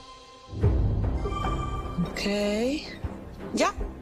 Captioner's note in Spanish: Pitido